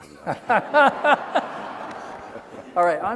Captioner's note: laughing